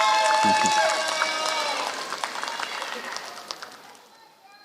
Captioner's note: applause